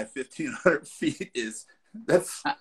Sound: laughs

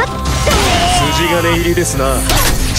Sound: critted scream

